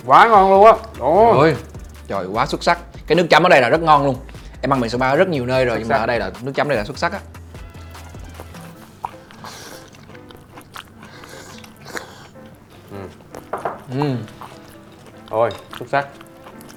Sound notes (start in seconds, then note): 9.4 slurping